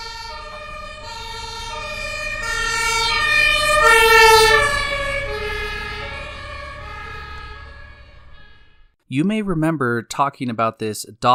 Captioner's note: siren Noise